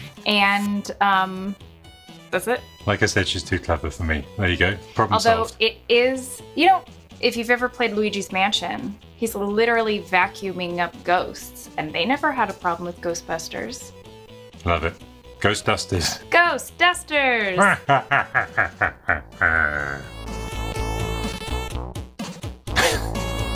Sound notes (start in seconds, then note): 17.5 evil laugh; 20.8 chiptune theme continues; 22.8 laughs